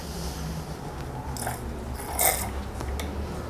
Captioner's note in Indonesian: suara cairan